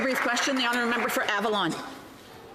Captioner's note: some Applause